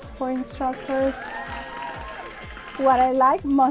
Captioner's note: applause